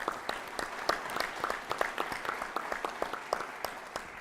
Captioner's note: applause